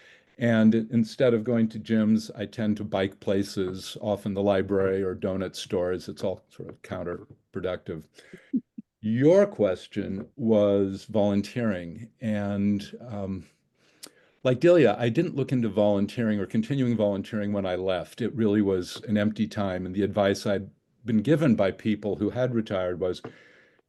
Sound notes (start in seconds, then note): 8.3 chuckling